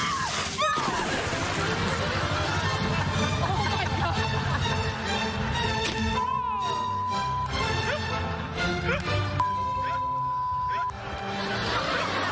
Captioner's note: screaming; laughing